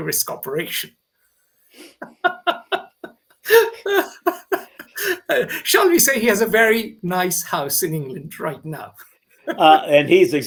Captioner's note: laughs